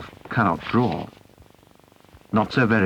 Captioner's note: sheet of paper rustles